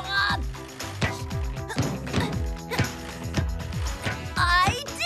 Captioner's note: ball Thumping